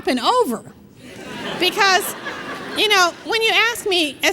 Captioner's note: laughter